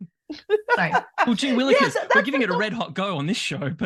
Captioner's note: laughs